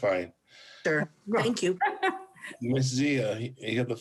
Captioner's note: laughs